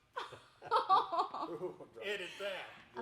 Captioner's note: chuckling